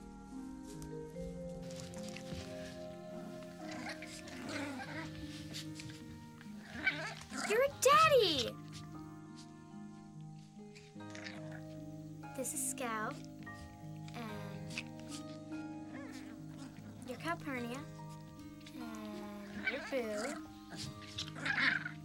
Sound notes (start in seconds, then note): 1.5 puppies grunting